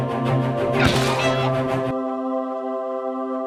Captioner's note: bird squawks; suspenseful music